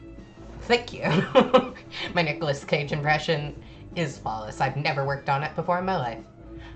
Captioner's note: giggles